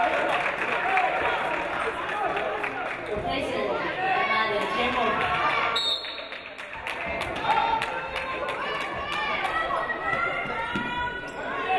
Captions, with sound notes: (audience applauding) replacing Najada Xhemo. (referee blows whistle)